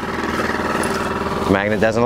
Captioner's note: engine chugging